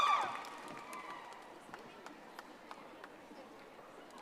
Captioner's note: audience applauding